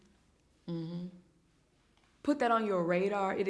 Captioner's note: hums in agreement